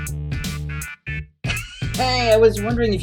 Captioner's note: laughs delightedly